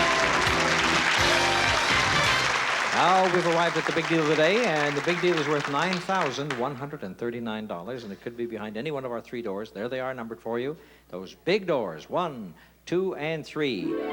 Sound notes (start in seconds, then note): 0.0 applause